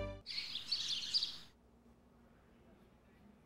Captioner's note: birds chirping